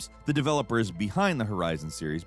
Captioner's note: none